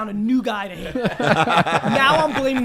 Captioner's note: all laugh